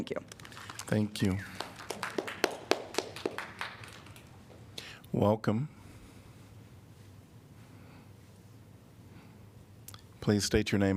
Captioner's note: applause